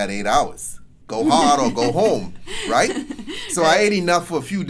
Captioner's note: laughs